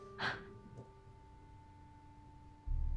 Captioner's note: gasps